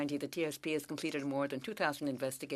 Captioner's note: speaking French